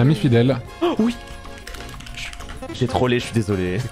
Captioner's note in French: bruits de clavier